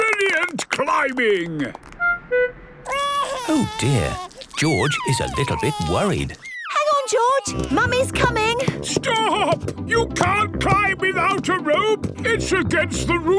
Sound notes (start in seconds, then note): 0.0 clapping; 2.8 crying